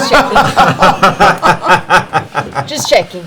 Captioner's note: laughter